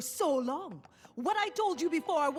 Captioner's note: gasp